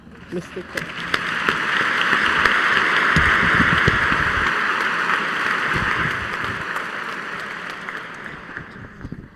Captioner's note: applause